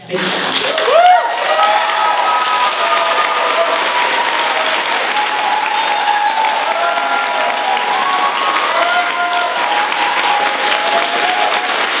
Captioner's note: applause and cheering